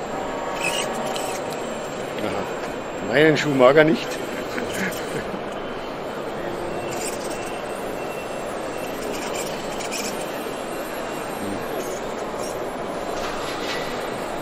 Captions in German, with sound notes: Meinen Schuh mag er nicht! (lachen)